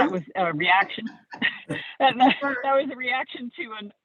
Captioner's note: laughing